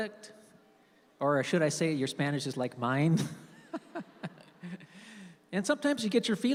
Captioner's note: laughs